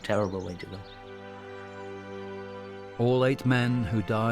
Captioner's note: birds chirping; gentle music